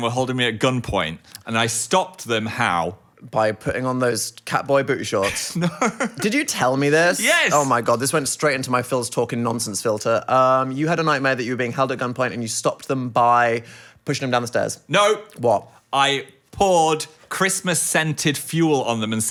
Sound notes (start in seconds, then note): 5.2 laughing